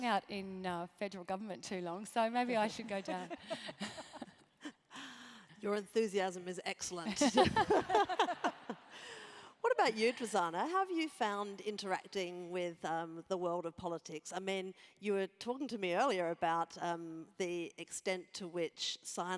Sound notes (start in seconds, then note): 2.9 laugh; 7.3 laugh